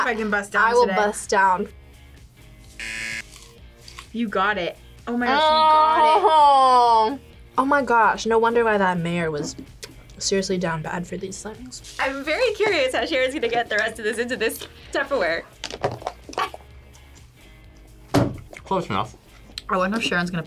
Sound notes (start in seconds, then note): 2.8 buzzer